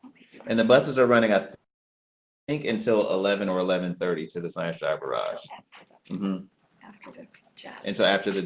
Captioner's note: panelists talking to each other